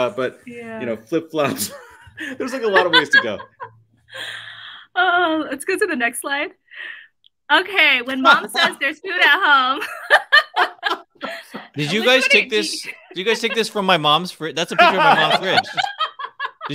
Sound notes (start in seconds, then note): 9.8 laughs